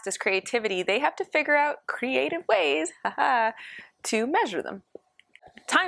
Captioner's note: laughter